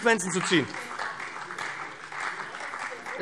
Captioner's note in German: Beifall BÜNDNIS 90/DIE GRÜNEN